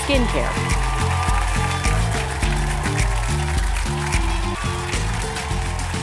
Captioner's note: cheers and applause